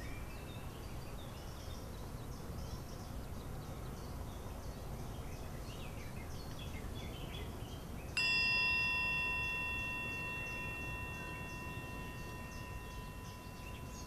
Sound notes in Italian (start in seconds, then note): 8.2 suono di campanella